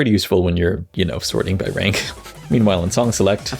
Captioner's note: chortles